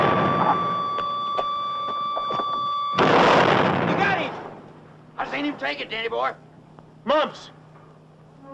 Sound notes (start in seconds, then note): 1.1 gunshots firing